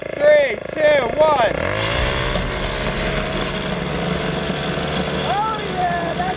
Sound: machine revving increases; suspenseful music

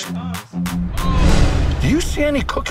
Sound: upbeat music; transition whooshes

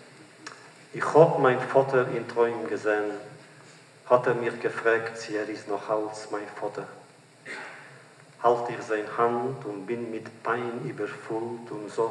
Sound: Yiddish

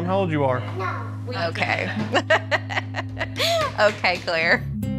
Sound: laughs

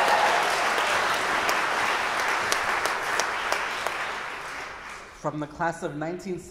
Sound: audience applauding

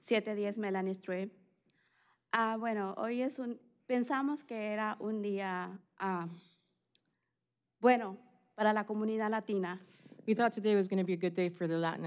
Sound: speaking spanish

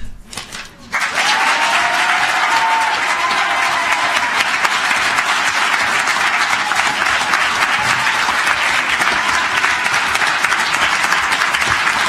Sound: applause

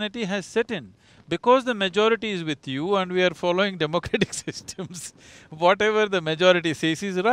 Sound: laughs

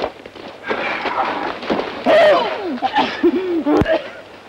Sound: Frenando coughing

